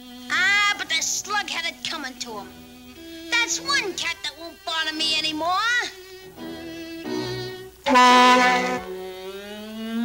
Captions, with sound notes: AH, but the slug had it comin' to 'em! Dat's one cat that won't bother me any more! [Honk!]